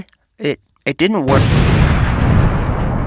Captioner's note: kablamo